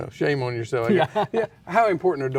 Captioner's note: laughs